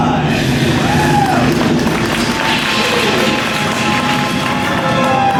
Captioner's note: cheers and applauses from audience; background music